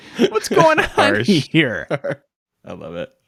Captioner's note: laughing